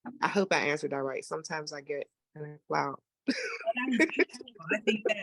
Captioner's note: laughing